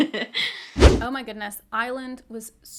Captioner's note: whooshing sound